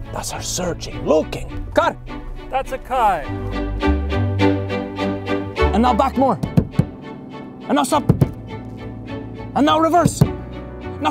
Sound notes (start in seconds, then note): 4.0 dramatic violin; 6.4 tapping on car